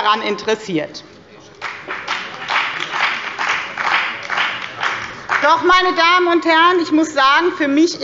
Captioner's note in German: Beifall bei der FDP und dem BÜNDNIS 90/DIE GRÜNEN